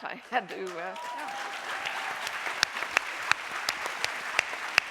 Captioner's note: audience cheering